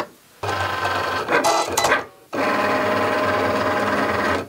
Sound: machine whirring

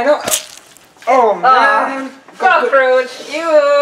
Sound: disgusting Squish Noise

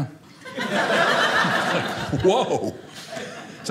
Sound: audience laughing

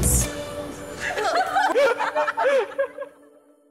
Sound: laughter

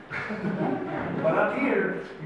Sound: audience laughs

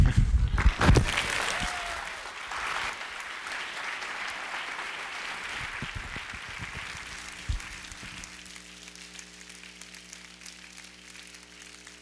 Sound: applause

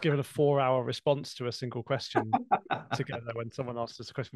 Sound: laughter

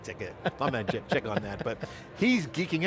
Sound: laughs

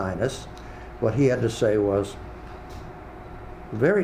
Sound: speaking a foreign language

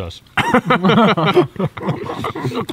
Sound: all laugh

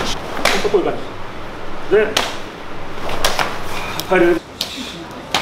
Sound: speaking in Japanese

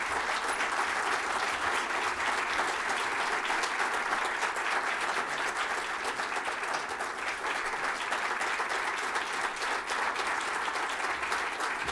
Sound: applause

